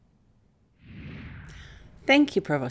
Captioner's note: air whooshing